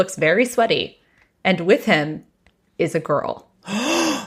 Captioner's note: gasps